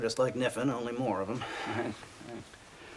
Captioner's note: nervous laughing